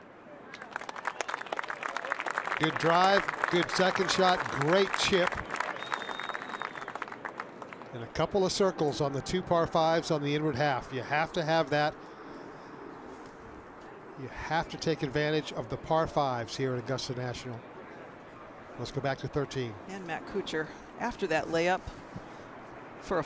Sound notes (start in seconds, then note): 8.0 applause